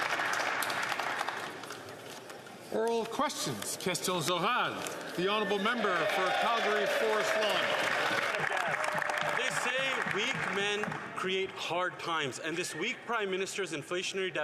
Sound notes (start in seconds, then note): 0.2 some Applause; 10.1 speaking French